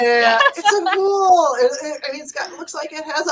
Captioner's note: laughing